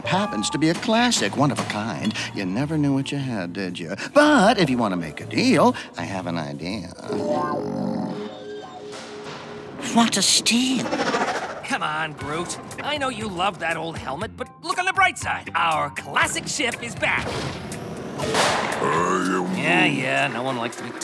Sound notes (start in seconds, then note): 6.8 snarls; 18.9 engine stops